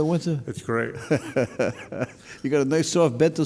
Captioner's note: laughing